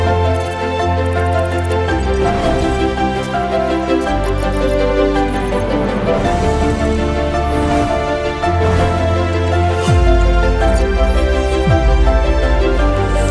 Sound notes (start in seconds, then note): 1.0 ticking; 1.8 dramatic music